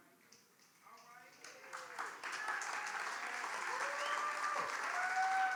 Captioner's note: audience applauds and cheers